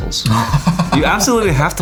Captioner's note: laughs